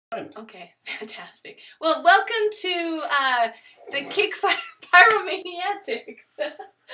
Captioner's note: laughter